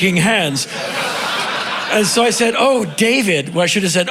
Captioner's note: crowd laughing